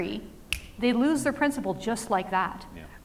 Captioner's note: snapping fingers